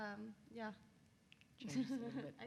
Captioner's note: laughs